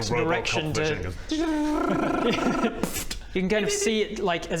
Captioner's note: tdjrrraaaararararrraraaa-pfffpt